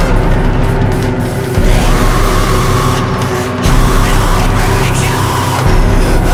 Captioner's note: screams